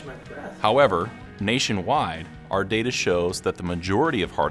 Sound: voiceover

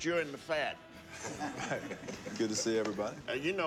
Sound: laughing

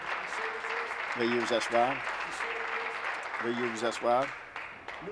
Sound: applause

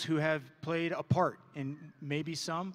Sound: none

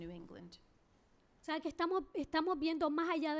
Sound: speaking spanish

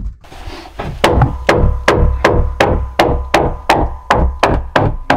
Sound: hammer thumping

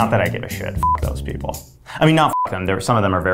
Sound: beep

